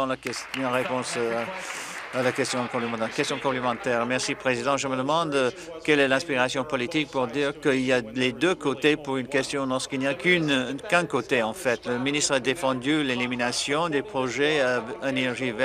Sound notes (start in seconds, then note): 3.8 applause